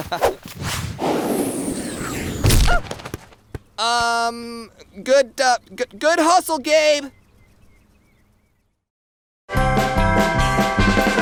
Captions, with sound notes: (laughing) (banging) - Um... Good hustle, Gabe!